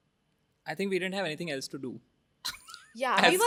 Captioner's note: laughs